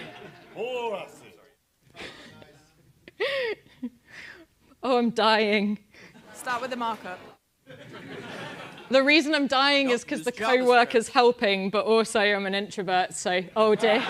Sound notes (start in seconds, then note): 7.3 laugh; 13.9 laugh